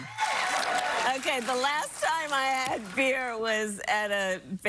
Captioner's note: cheers and applause